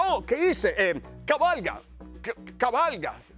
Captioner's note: laugh